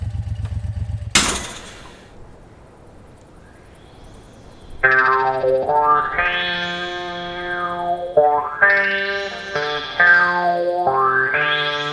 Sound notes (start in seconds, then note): 1.1 engine failure